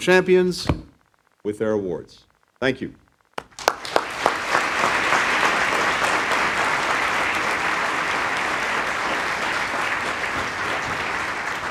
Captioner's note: applause